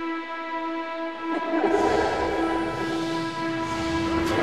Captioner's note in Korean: 뒤틀린 웃음소리